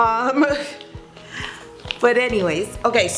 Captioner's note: laughs